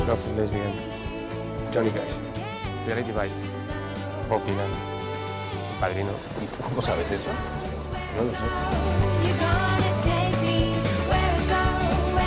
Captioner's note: cheerful music playing; speaking in Spanish; cheerful music playing